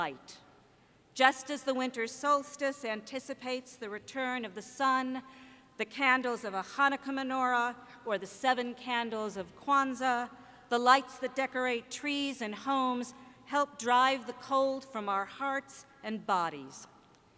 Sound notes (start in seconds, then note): none